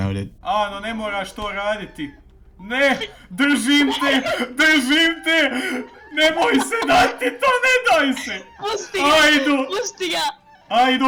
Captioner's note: bosnian gamer noises